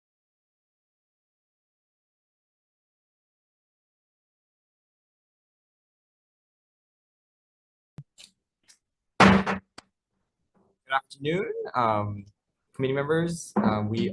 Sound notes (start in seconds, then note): 9.2 gavel bangs